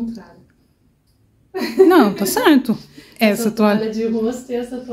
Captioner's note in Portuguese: risos